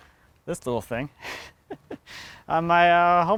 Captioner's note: laughs